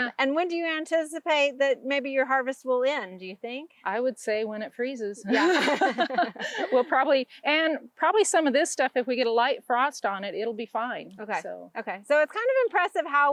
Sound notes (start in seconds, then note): 5.3 both laugh